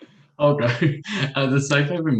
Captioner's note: chuckles